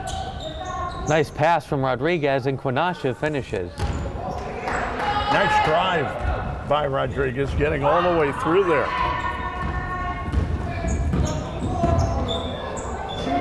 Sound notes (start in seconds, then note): 9.7 crowd chattering